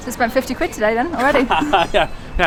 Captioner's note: laughing